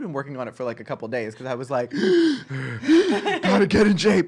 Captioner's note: breathing heavily